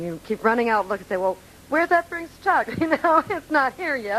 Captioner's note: laughing